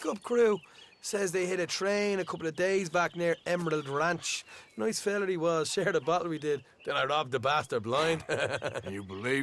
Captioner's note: laughs